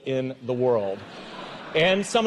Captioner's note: audience laughs